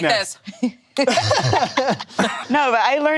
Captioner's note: laughs